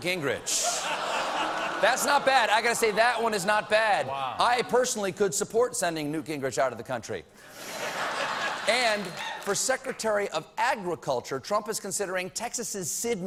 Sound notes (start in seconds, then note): 3.1 audience reacts; 3.1 laughter